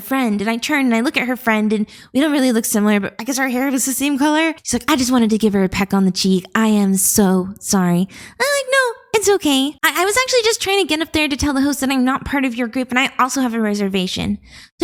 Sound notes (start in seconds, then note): none